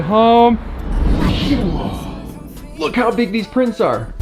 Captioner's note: whoosh noise